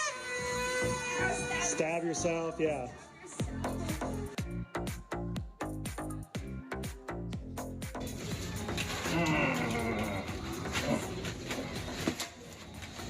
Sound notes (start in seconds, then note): 0.0 model blowing horn; 5.9 electronic dance music; 9.0 model grunting